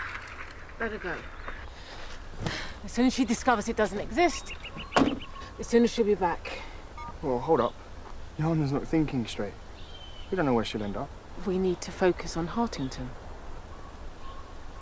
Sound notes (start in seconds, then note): 6.9 phone beeps